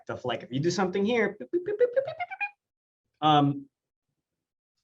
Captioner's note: mimics beeping